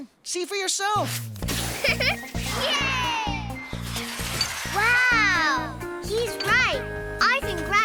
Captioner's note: giggles